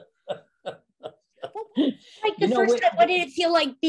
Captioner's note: Martin laughing